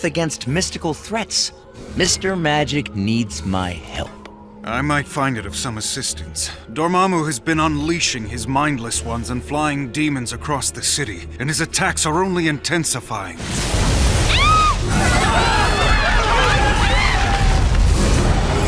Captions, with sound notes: against mystical threats, Mr. Magic, needs my help. I might find it of some assistance. Dormammu has been unleashing his mindless ones and flying demons across the city. And his attacks are only intensifying. [WHOOSH] [SCREAMING]